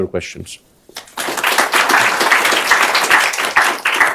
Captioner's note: applause